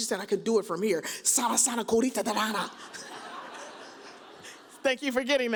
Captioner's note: laughs